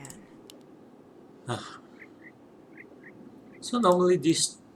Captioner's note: SIgh